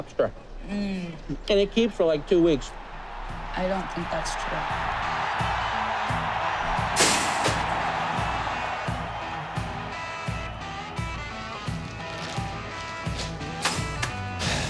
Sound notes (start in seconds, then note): 4.1 crowd roaring